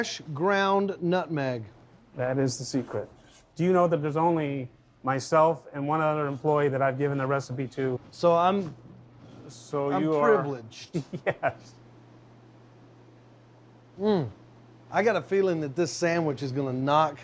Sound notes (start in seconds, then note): 10.8 chuckles